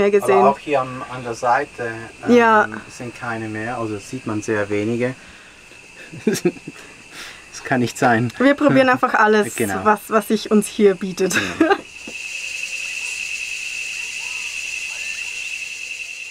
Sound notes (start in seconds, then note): 12.3 crickets chirping